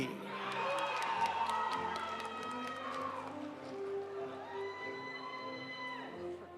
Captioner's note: audience cheering; audience applauding